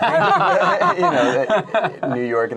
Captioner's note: laughing